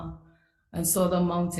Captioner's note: speaks foreign language